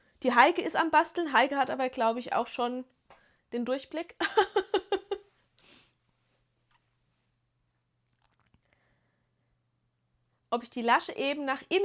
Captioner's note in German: gelächter